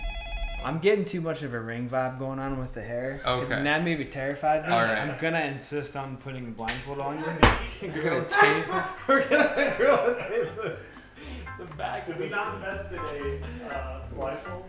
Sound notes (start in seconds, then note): 7.9 laughing